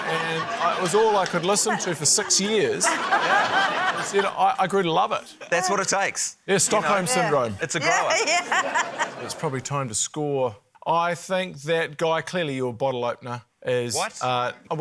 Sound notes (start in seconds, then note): 3.4 laughter; 7.9 laughs